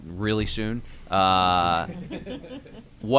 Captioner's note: laughter